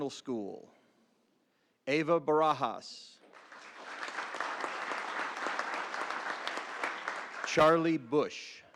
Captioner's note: applause